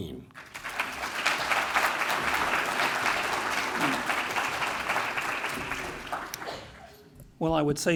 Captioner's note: applause